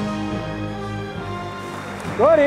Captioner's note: applause